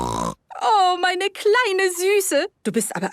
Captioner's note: snorting; speaking German